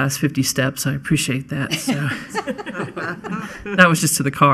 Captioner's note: laughing